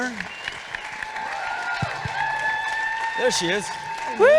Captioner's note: audience cheering